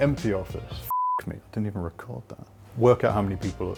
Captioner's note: beep